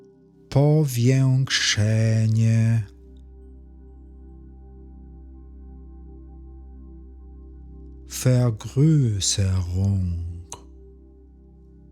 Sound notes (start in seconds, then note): 9.9 german